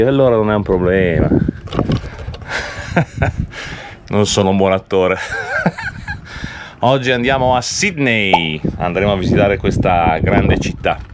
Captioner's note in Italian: risate